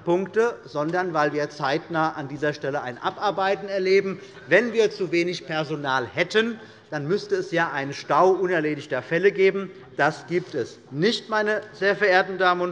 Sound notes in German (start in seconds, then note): none